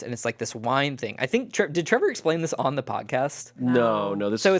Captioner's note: none